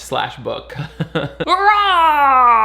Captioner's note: laughs; mimics villain yelling